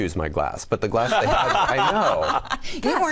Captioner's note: all laugh